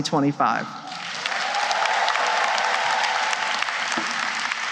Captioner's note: applause